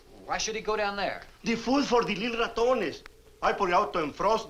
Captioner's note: speaks Spanish